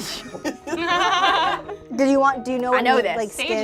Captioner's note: group laughs; laughs